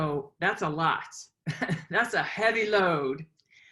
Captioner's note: laughs